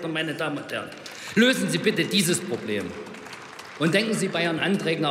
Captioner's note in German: Beifall bei Abgeordneten der AfD